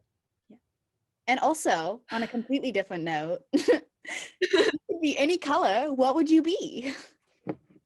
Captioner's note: chuckle